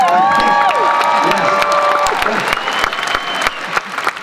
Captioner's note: applause